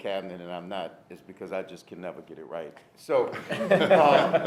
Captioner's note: laughter